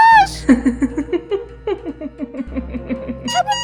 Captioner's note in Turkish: Gülme sesi